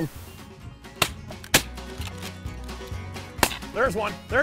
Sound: gunshots echoing

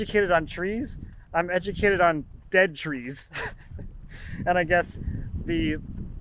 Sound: laughs

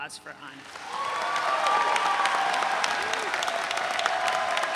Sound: audience cheering

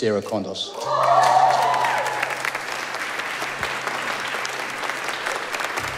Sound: audience clapping

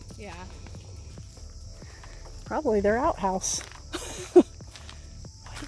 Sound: laugh

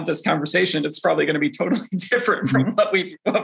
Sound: chuckles

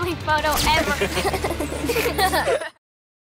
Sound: laughing

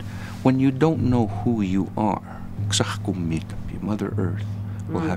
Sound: speaking Blood

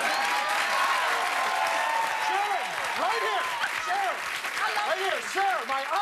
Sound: cheers and applause

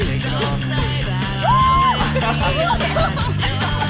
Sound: group chattering and laughing; Megan whoops; group laughs

